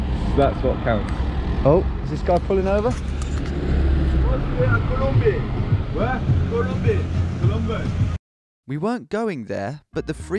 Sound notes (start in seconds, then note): 4.2 speaking in a foreign language